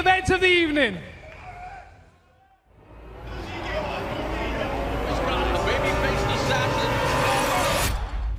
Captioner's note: cheers and applause